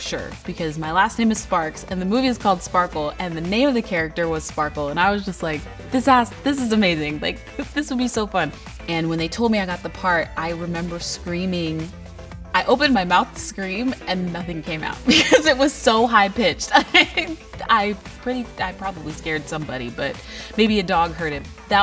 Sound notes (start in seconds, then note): 15.1 laughs